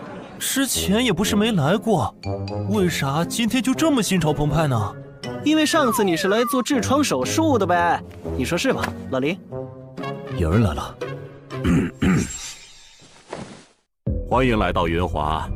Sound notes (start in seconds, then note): 11.6 cough cough